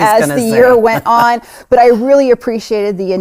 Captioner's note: laughs